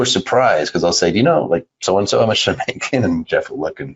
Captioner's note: laughs